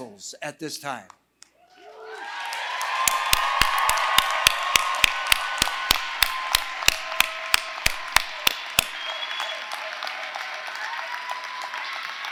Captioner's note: applause